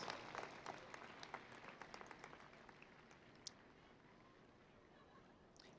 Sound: applause

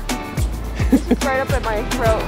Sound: chuckling

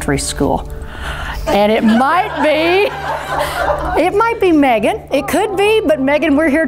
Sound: laughing

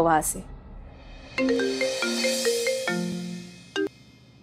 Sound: phone ringing

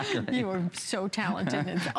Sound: laughter

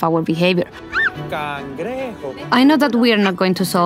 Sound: speaking in foreign language

